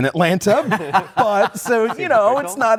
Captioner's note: laughter